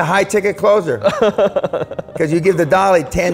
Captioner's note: laughter